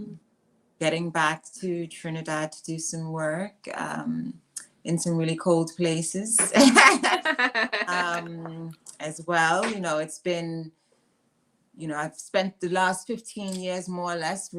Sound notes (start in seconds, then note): 6.5 laughing